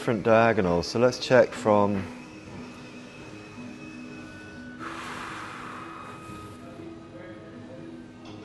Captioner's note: deep breath